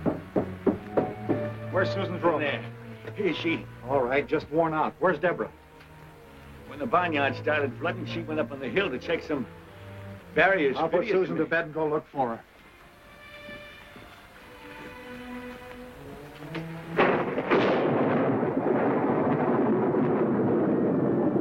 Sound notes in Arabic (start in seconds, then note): 8.8 موسيقى هادئة; 12.1 تصفيق الرعد; 18.4 موسيقى درامية